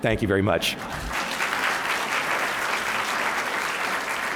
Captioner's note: applause